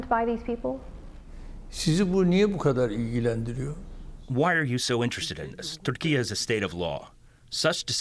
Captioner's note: through translator